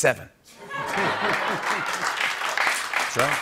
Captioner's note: laughter